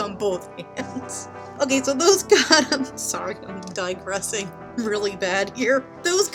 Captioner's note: laughing; still laughing